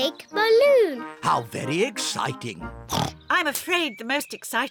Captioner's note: oinks